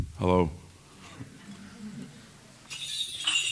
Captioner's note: laughter